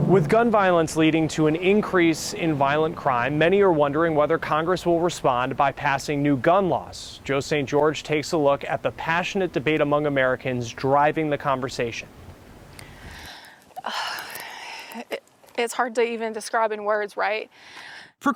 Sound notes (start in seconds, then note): 13.8 sighs exasperatingly